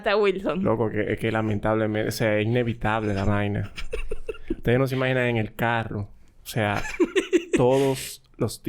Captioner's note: laughs